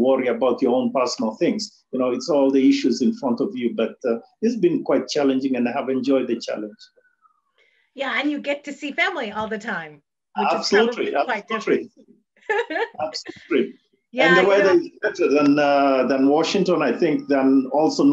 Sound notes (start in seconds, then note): 12.5 laughs